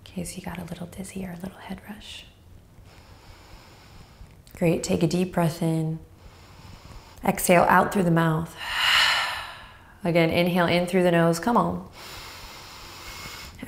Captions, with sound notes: In case you got a little dizzy here, a little head rush. Great. Take a deep breath in. Exhale out through the mouth. (exhales loudly) Again inhale in through the nose, come on. (inhales)